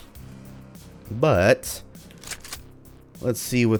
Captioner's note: shick-shick